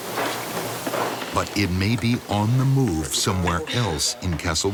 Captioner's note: voiceover